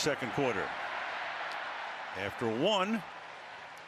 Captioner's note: cheering